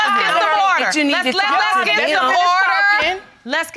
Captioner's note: continue arguing